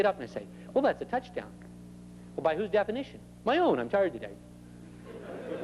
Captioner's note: laughter